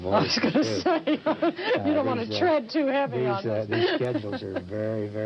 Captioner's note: laughter